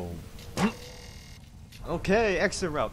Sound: grunt

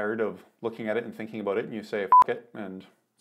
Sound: beep

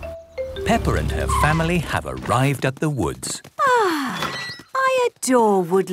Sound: laughter; contented sigh

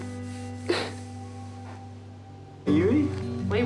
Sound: cries

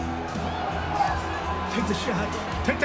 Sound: crowd cheers on TV

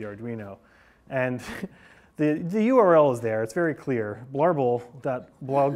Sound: laughs

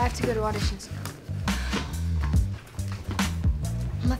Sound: sighs

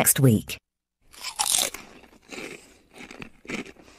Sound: eats chips loudly

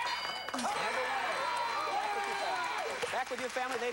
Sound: cheers and applause

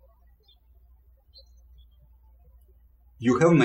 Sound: birds chirping

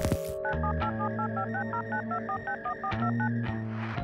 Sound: phone dialing

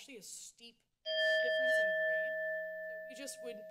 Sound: bell rings

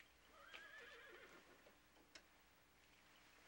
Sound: horse neighs

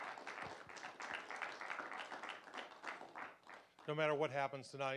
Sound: applause

